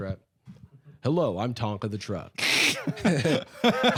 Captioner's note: laughing; chuckles